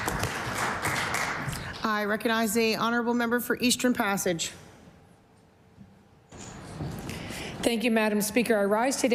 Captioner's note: applause